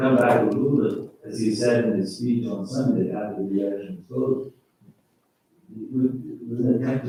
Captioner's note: faintly speaking